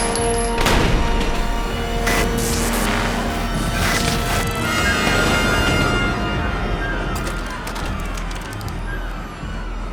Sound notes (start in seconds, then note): 1.6 interface buzzing; 6.7 suspenseful music